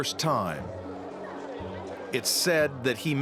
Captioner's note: chattering